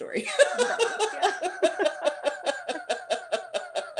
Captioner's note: laughter